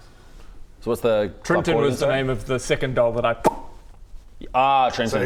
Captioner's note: pop!